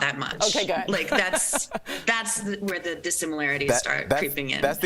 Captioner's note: laughter